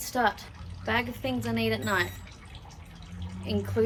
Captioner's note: scales give a high-pitched beep